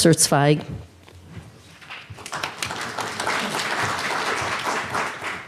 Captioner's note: audience applauds